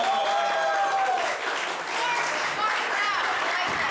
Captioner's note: cheering